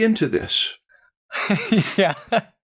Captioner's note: laughs